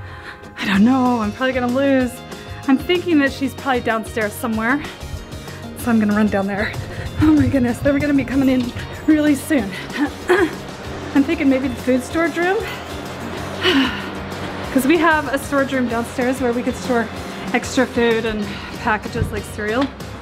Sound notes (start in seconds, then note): 13.4 sighs